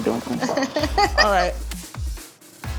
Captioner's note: upbeat music continues; laughing